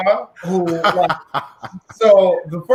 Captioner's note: laughing